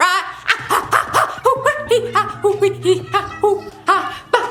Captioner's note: vocalizing